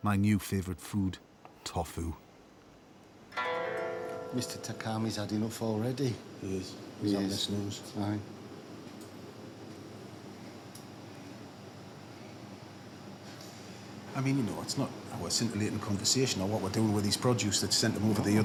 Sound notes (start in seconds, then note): 7.4 stutters